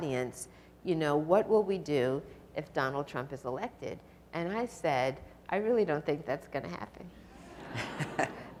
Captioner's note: audience laughs